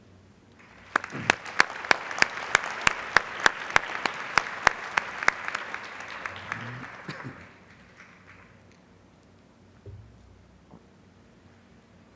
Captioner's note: applause